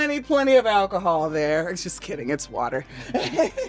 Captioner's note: laughs